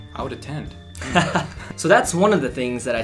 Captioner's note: laughs